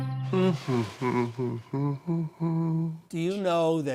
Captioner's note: humming